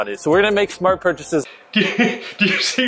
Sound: laughing

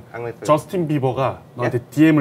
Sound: in Korean

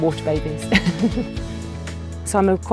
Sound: person laughing

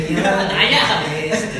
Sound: laughs

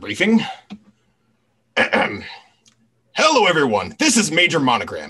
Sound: clears throat

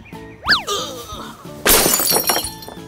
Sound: groans; glass shatters

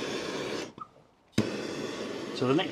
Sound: torch whooshing

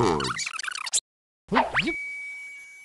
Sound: video squeaking

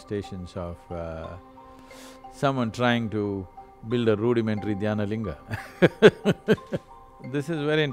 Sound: laughs

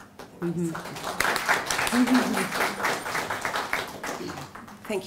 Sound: clapping

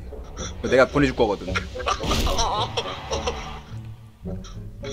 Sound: awkward laugh

